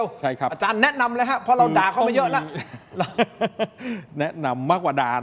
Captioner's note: laughs